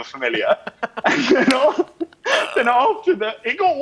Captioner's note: laughing